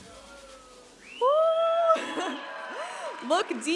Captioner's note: audience applauding and cheering